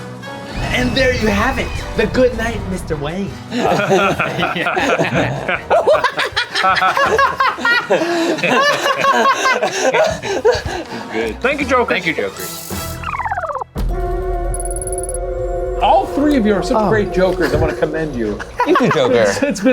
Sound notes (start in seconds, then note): 3.4 laughing; 14.7 mysterious music